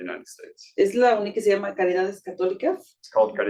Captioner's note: speaking Spanish